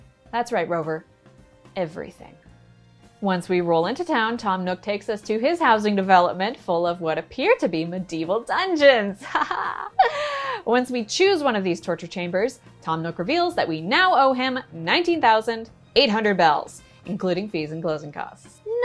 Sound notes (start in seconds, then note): 9.2 chuckles